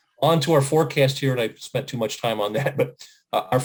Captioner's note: chuckles